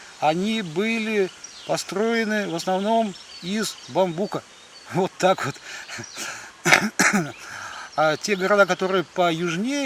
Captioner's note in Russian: кашель; откашливается